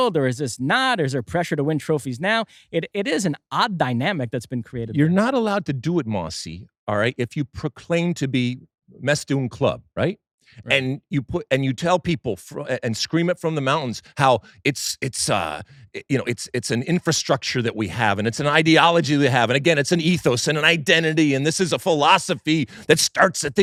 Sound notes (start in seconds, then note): 8.7 non-english